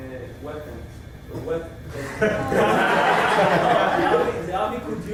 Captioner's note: laughter